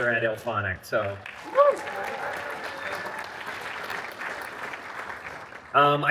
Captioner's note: applause